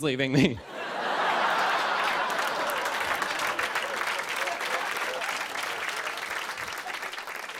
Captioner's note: laughter and applause